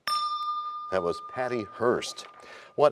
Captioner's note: bell rings, time expires